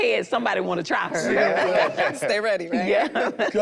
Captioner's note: group laughs